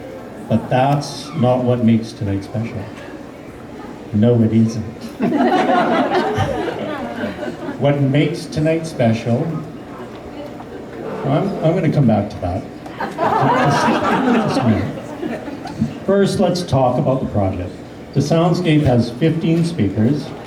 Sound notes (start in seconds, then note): 5.1 laughter; 12.9 laughter